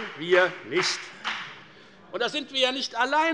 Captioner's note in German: Beifall bei der FDP